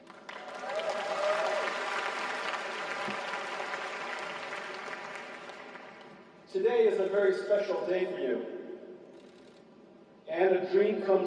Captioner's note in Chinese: 掌聲